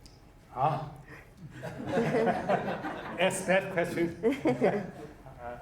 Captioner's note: laughing